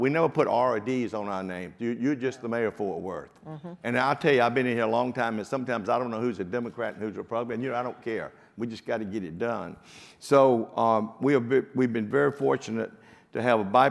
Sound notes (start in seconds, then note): none